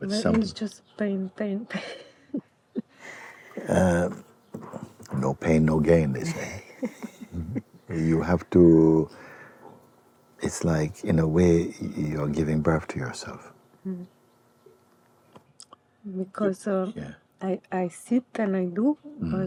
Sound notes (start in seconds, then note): 2.8 laughs; 6.1 questioner 1 laughs